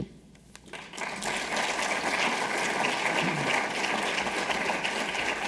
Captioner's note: audience applauding